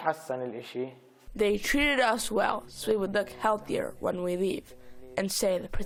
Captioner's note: through translator